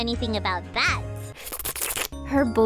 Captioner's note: slurping